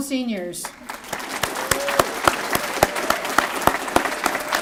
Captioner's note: applause